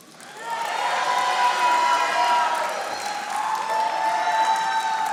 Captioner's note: audience applauding